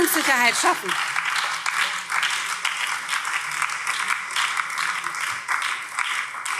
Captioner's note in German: Beifall BÜNDNIS 90/DIE GRÜNEN